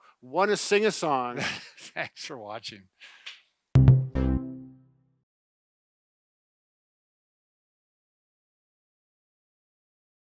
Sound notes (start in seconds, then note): 1.4 chuckling; 3.8 digital chiming